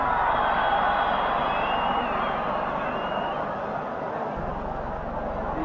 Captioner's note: applause